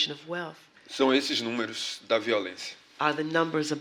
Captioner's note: speaking portuguese